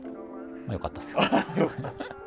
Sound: laughing

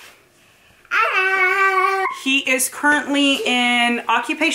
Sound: babbling

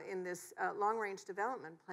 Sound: none

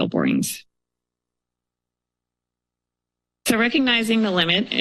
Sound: pause

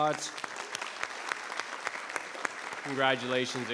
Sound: applause

